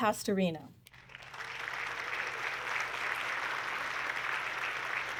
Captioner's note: audience clapping